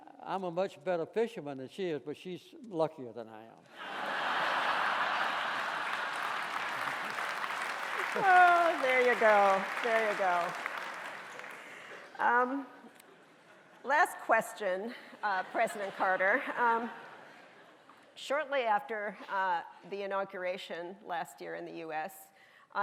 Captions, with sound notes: I'm a much better fisherman than she is, but she is luckier than I am. (audience laughing) (audience applauding) - There you go, there you go. Last question, President Carter. Shortly after the inauguration last year in the US